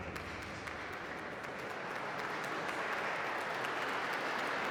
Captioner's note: audience applauding